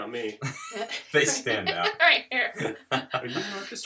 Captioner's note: laughter